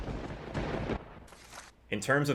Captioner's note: paper ripping; lightening and thunder; paper ripping